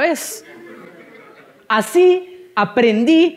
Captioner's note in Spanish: Risas